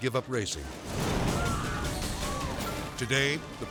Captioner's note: car igniting; people screaming